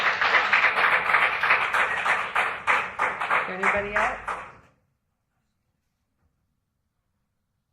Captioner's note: applause